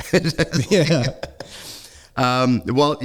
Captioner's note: laughing